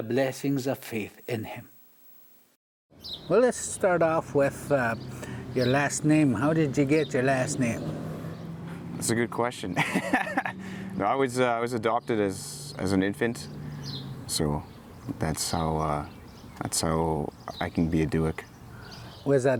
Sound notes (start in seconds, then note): 9.7 laughs